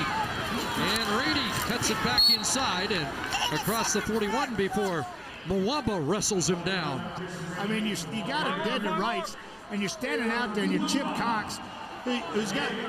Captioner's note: loud Crowd Noise